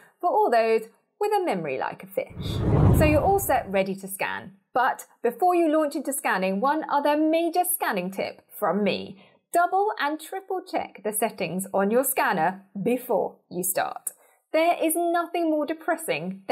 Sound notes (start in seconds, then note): 2.3 scene whooshes